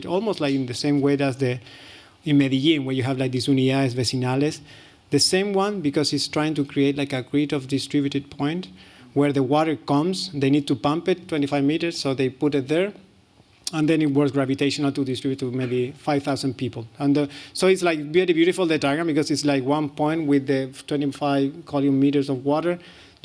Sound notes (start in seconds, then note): 4.1 non-english